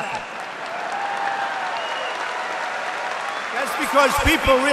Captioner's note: applause